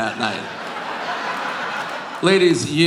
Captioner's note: audience laughing